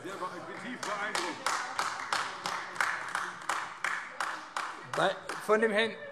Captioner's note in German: Heiterkeit und Beifall AfD